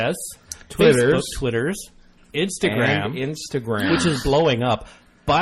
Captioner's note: gasps